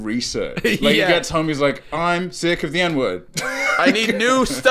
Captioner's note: laughing